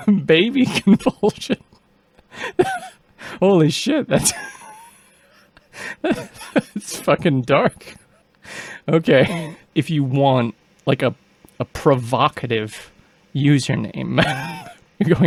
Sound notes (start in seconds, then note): 0.0 appalled laughter; 2.2 laughing; 4.1 struggling to stop laughing